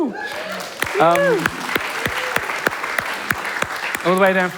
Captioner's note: applause